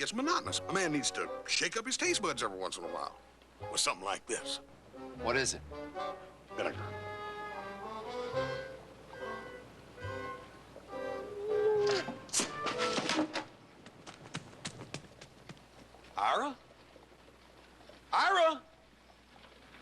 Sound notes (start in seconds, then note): 11.0 muffled groan; 13.8 footsteps running